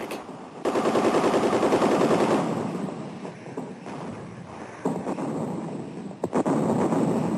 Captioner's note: guns firing rapidly; explosions blasting